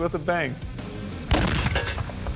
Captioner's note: explosion